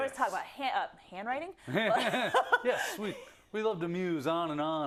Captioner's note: laugh